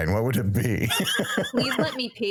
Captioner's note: laughing